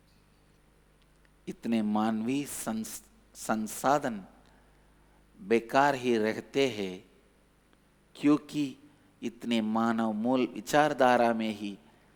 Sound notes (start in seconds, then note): 1.3 speaks in Hindi